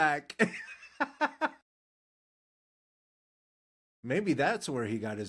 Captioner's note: laughing